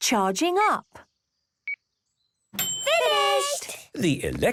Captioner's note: dings